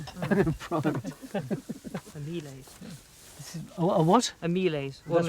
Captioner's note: chuckles